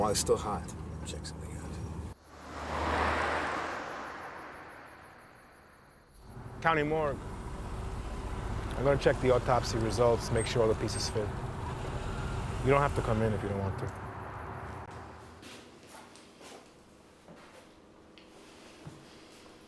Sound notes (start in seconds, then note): 2.6 car engine roaring; 15.0 feet shuffling